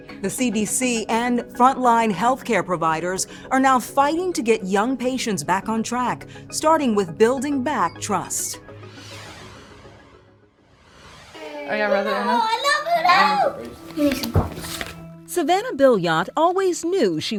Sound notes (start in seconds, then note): 11.4 children chatter